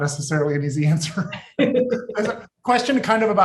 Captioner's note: laughing